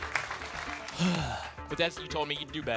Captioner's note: sighs